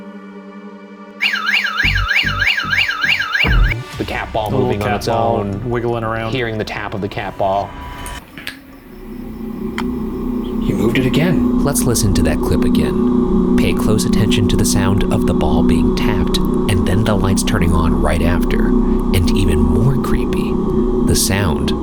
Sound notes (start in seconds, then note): 1.2 alarm whirring; 9.0 eerie music